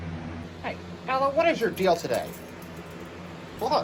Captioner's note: normal voice